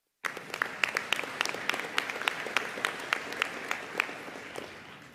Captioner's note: audience applauding